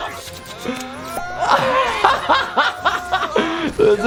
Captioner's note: laughs